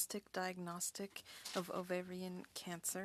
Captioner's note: speaking French